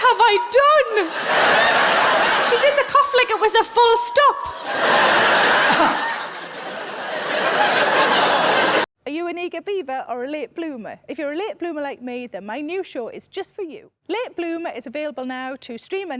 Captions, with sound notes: What have I done? (laughing) She did the cough like it was a full stop.